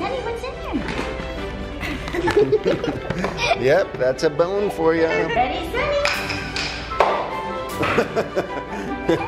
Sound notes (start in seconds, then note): 1.8 laughing; 1.9 christmas music playing; 7.8 laughing